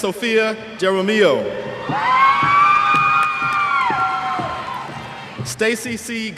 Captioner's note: cheers